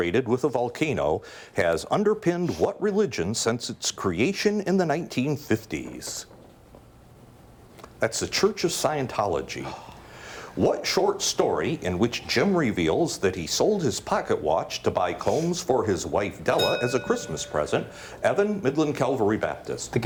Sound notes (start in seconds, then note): 16.5 bell dings